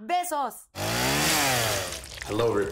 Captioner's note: chainsaw sound